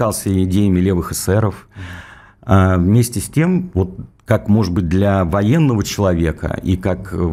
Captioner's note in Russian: тяжело вздыхает